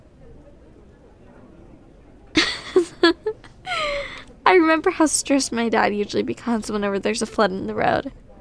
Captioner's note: soft laugh